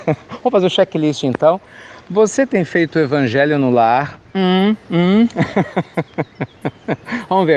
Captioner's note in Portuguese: risadas